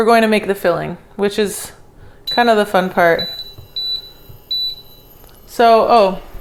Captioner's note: hot plate beeping